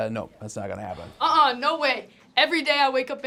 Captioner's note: disagreement noises